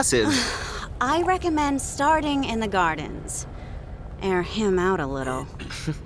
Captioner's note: sighing